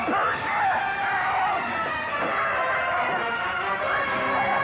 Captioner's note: screaming